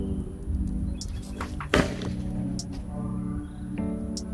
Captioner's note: loud thud